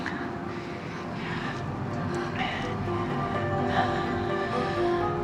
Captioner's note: breathing heavily